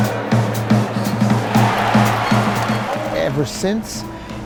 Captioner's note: crowds cheering; big band music